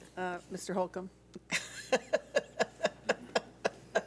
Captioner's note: laughs